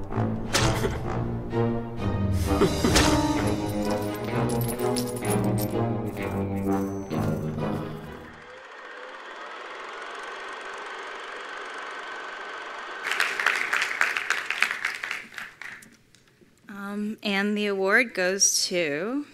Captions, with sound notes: (attendees applauding) - And the award goes to